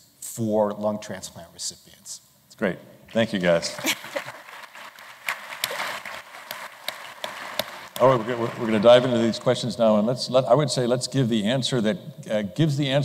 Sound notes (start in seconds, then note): 3.7 applause